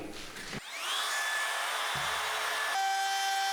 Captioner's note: sawing